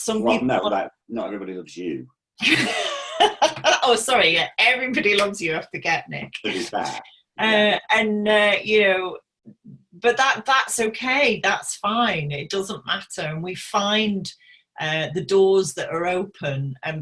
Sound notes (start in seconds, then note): 2.4 laughing